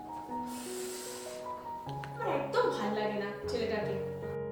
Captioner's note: sighs